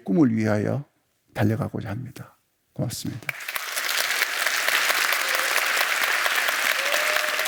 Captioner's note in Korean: 박수와 환호